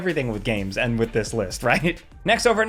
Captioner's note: chuckles